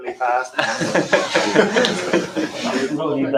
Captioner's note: laughter